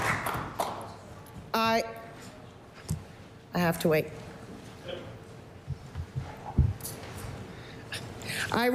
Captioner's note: applause